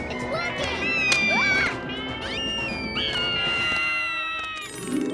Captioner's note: Max screams; Lizbeth screaming; wings flapping; dreamy harp; max whining nervously